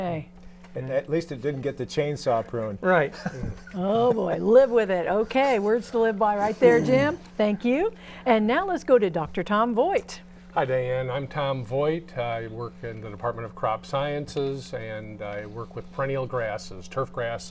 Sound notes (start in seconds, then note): 3.1 laughing